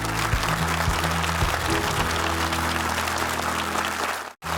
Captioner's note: audience applauds